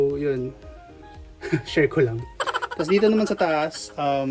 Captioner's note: laughs